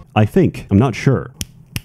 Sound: snap

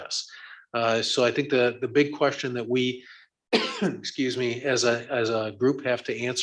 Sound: coughs

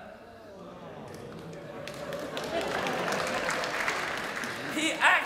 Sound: audience reaction and applause

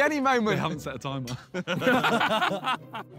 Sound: laughing; laughs

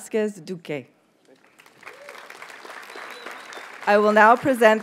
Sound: audience cheers and applauds

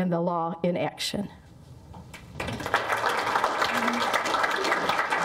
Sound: applause

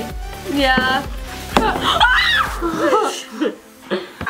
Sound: screams

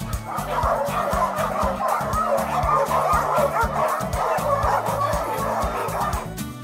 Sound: barking

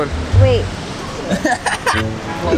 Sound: laughing

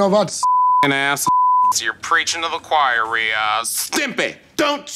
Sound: beeping

